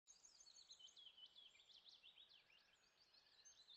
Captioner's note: birds chirping